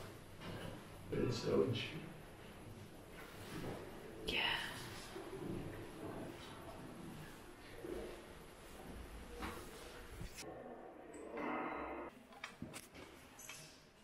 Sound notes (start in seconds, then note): 6.0 whispers